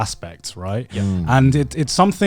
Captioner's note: affirmative murmuring